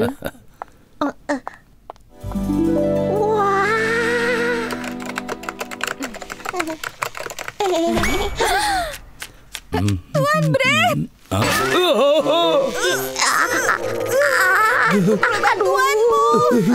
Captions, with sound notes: - Wow. (tapping) - Master Bread. (screams) We could really use your help here.